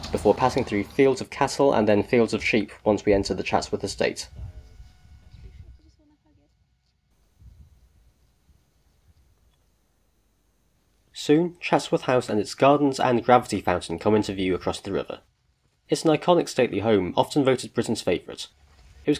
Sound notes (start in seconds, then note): 7.2 sheep eating grass